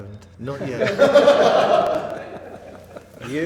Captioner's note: laughter